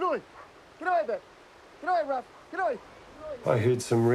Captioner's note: shouts; shouts